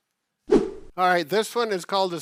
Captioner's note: air whoosh